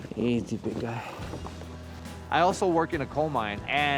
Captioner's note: horse blusters